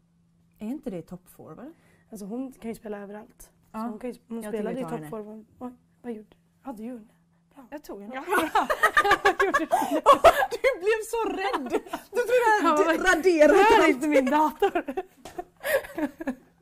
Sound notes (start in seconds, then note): 8.3 both start laughing their asses off